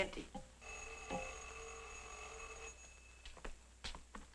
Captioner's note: phone rings